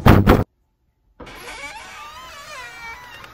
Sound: sound of banging on door; sound of door creaking open

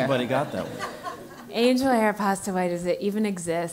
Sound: laugh

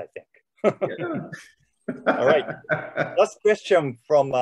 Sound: laughing

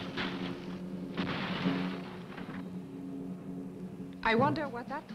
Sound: tree crashing

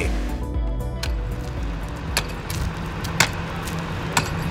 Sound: pick axe on rock

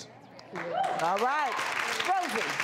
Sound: audience applause

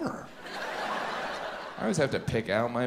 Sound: audience laughs

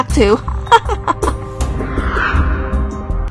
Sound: laugh

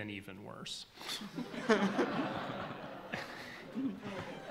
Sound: laughs

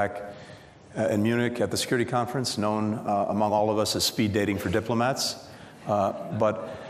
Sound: laughter

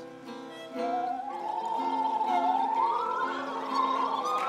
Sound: gurgling to tune

